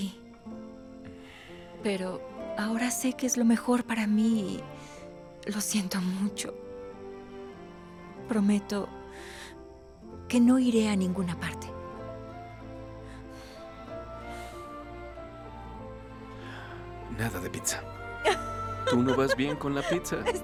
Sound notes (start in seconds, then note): 1.0 Suspiro